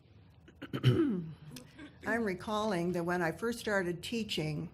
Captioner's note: clearing throat